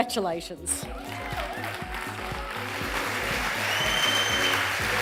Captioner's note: audience applauds